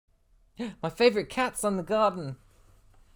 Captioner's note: gasp